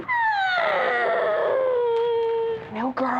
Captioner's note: 1st orphan cries; crying cont